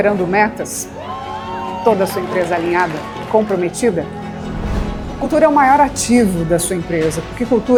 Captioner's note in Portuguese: aplausos